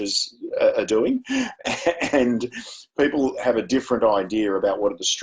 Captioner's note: chuckles